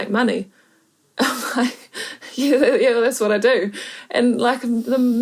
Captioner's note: laughs